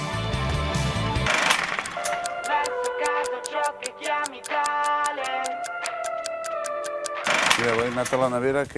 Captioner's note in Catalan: tic-tac